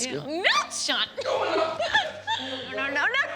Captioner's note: Candace laughing